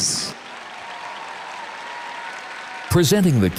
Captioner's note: audience cheers and applauds